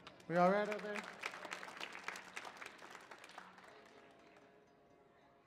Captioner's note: audience applauds